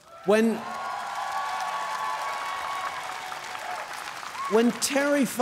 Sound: cheers & applause

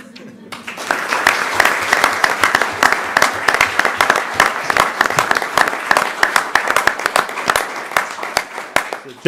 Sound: applause

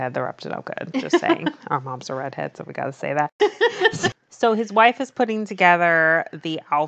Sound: laughs

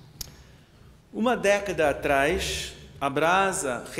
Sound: speaking portuguese

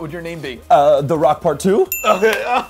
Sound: bell chimes

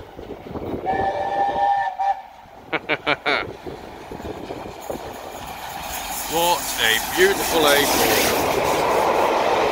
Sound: chuckling

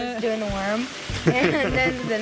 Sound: laughing

